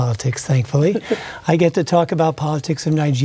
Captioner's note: chuckles